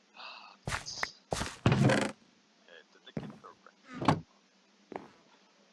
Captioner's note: talking